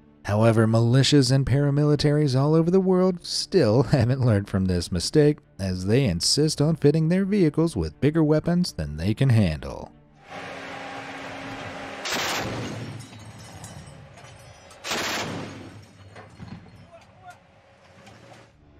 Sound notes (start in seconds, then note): 10.2 vehicle droning; 10.5 gun firing